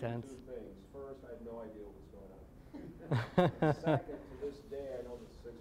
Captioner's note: scattered laughing